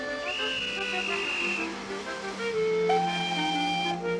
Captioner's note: whistle shrieks